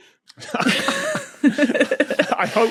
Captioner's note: group giggling